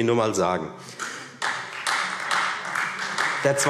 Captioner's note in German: Beifall Freie Demokraten